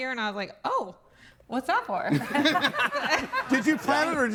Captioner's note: laughs